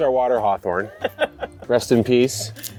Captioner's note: laughing